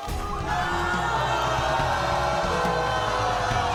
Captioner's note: audience erupts